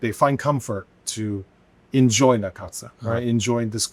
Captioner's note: speaking Chinese